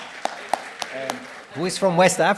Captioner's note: applause